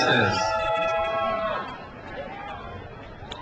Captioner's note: crowd cheers